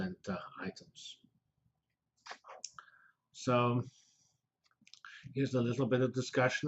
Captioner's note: pause